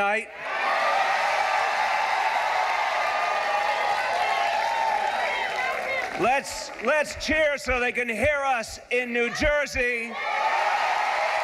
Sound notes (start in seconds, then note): 2.0 cheering and applause